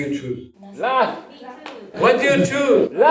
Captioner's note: laugh!